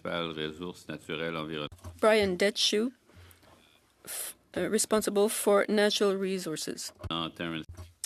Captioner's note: speaking French